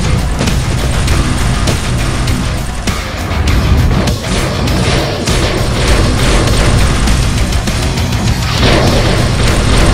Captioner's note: shockwave; shockwave